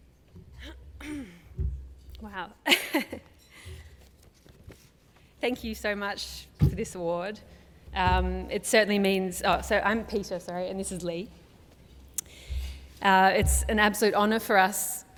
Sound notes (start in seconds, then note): 3.0 laugh